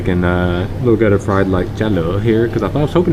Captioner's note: speaking Vietnamese